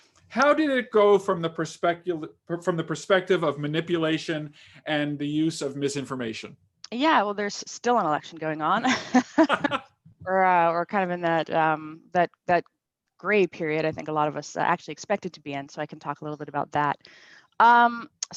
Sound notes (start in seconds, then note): 8.9 laughs